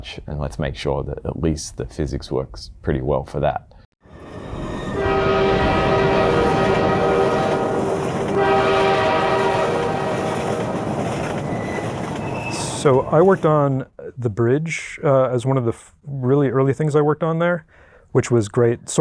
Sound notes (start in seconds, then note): 4.9 train horn blaring